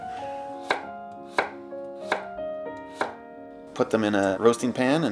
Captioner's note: knife chopping